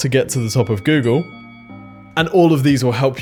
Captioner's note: bell rings